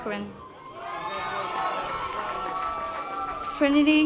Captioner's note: audience applause